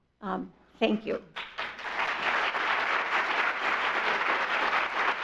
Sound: audience applauds

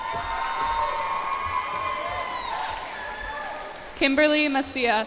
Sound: cheers and applause

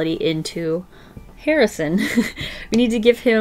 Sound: chuckles

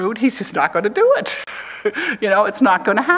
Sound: chuckles

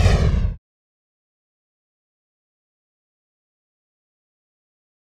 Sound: whooshes

